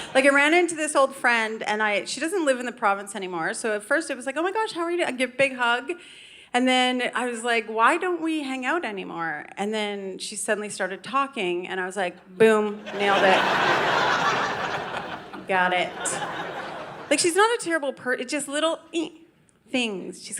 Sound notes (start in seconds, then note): 0.0 audience laughing; 12.8 audience laughing